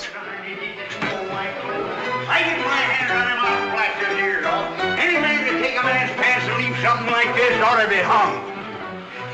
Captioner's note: windy swears very angry